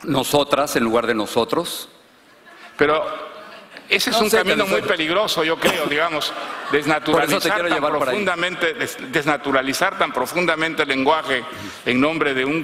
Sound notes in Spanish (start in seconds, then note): 8.0 risas